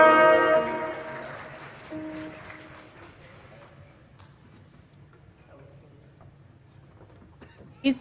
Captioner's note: applause